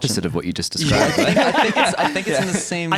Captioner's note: laughter